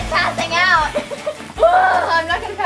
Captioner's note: laughing